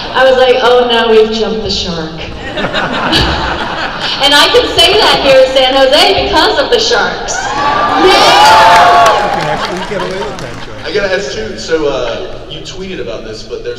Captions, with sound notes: I was like, "Oh no, we've jumped the shark." And I can say that here in San Jose because of the sharks. (crowd cheers) - I gotta ask to, so you tweeted about this,